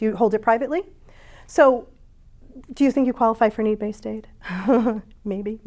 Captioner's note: chuckles